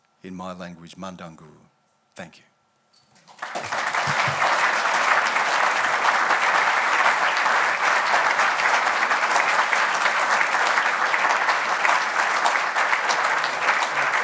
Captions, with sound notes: In my language, "mandangu," thank you. (audience applauding)